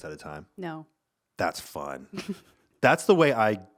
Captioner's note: laughing